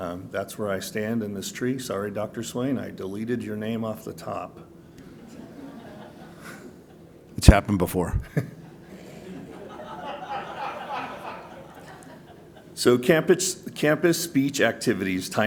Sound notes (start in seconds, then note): 5.0 laughter; 8.3 laughter